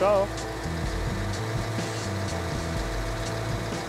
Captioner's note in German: Motorrattern